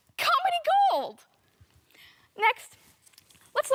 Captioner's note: soft breathing